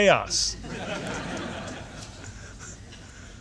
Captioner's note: laughter